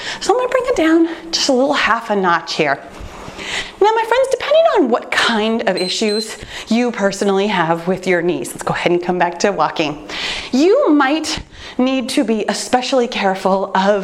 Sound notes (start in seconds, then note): 5.7 timer beeps